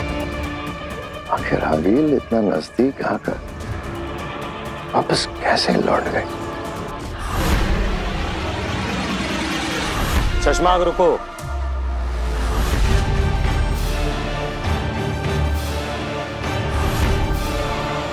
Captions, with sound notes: 'How come Aageel came so close' 'yet turned back?' [sound effect playing] Stop, Shashmaagh. [suspenseful music playing]